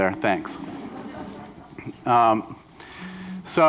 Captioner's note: laughter